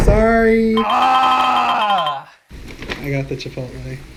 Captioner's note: groans